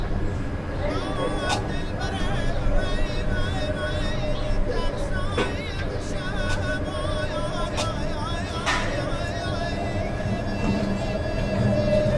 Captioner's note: A reciter reciting religious elegies in the background